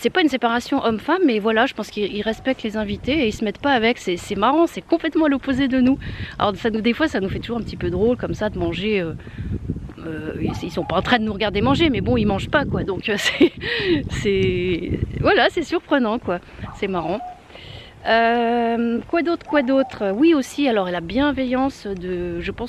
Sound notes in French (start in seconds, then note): 14.6 rire